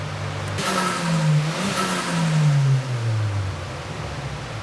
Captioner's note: engine revs